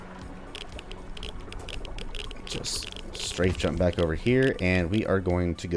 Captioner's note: geiger Counter clicking